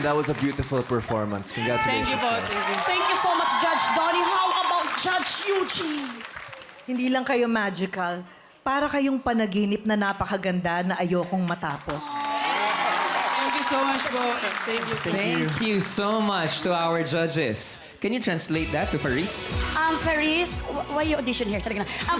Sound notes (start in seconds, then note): 11.9 crowd applauding